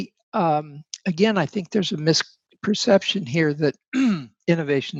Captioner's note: clears throat